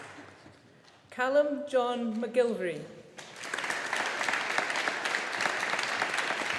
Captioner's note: audience applauding